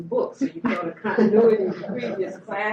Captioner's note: laughter